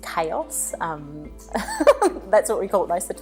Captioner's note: laughing